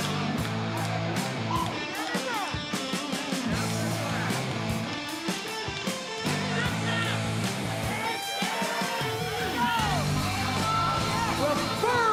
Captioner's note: crowd chatter